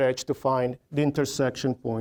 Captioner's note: none